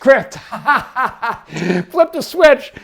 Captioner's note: laughing